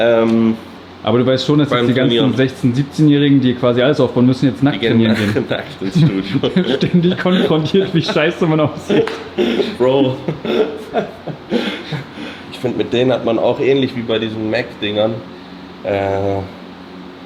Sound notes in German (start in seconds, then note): 8.8 räuspern; 11.1 gelächter